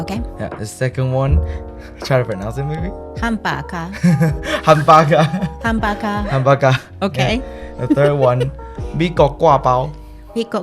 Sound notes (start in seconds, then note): 3.2 Taiwanese; 10.3 Taiwanese